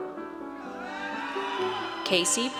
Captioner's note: audience cheers